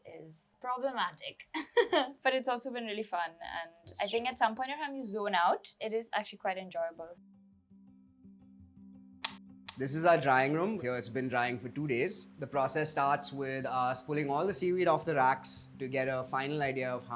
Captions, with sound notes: is problematic. (laughing) But it's also been really fun, and I think at some point in time, you zone out. It is actually quite enjoyable. (light switches clicking) - This is our drying room here. It's been drying for two days. The process starts with us pulling all the seaweed off the racks to get a final idea of